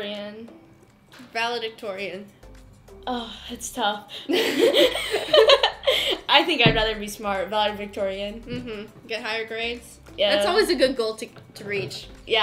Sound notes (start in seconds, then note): 4.2 laughter